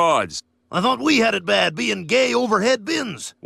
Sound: imitating waldorf; imitating statler

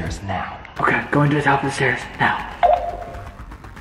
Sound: beep; light intense music

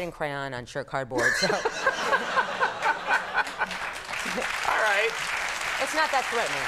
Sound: Conan and audience laughing

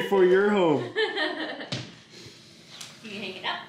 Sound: laughs

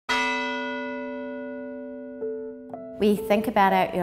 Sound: bells rings

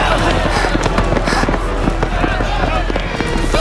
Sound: panting

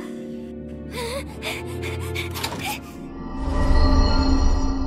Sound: Pomni panting

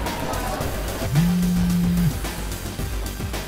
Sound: phone vibrates

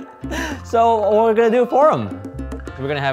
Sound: laughing

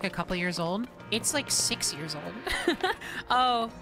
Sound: laughter

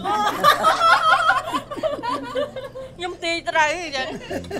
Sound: diners laughing

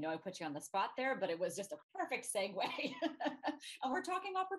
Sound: laughs

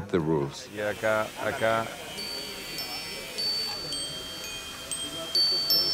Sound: chimes

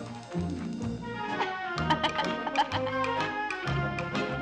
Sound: laughing

